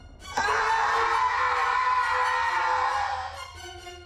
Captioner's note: screaming